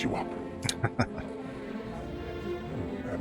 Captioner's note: chuckling